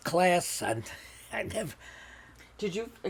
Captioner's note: laughing